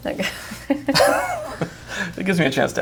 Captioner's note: both laugh